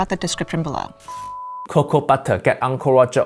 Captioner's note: screen beeping